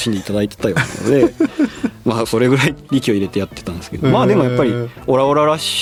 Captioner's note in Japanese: 笑い